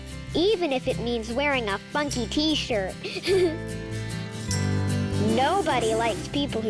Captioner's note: giggles